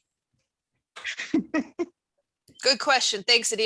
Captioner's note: laughs